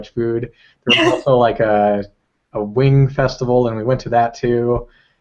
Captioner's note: laugh